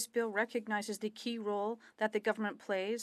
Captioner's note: speaking French